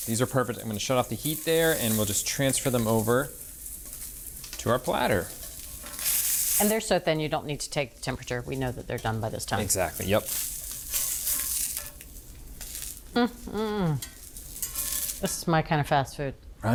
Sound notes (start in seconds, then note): 10.5 skillet sizzling